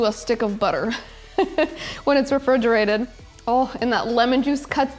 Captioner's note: laughs